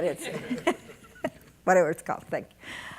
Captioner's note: audience laughing